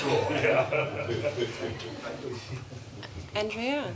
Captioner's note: laughter